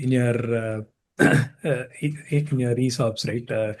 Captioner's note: clears throat